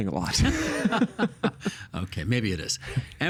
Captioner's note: both laughing